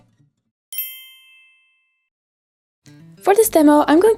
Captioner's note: chimes tinkling